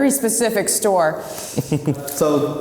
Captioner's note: laughs